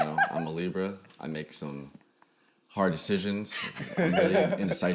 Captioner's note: laughs; laughs